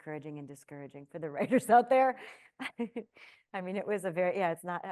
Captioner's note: chuckling